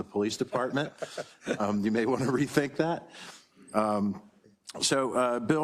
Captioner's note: laugh